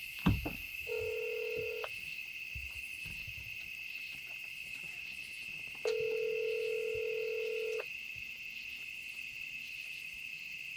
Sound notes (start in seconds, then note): 0.9 ringback tone; 5.9 ringback tone